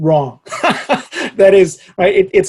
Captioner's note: laughs